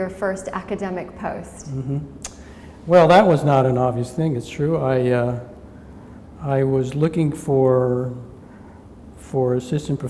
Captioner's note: smacks lips